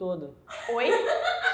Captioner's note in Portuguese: risos